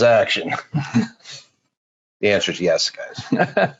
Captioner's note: laughing; laughing